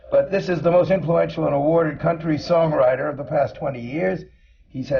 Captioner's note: none